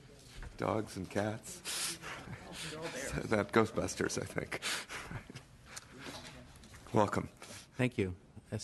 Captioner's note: laughing